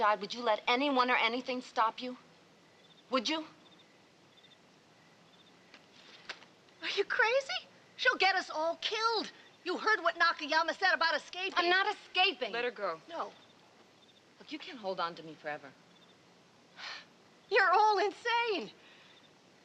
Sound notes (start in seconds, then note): none